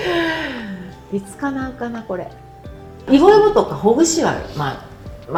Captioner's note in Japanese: 息をのむ音